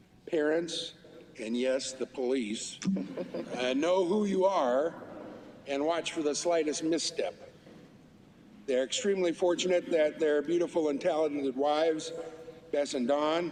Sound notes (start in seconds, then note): 3.0 laughter